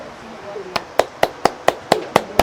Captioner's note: applauds